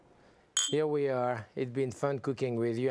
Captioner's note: glasses clinking